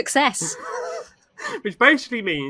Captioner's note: laughs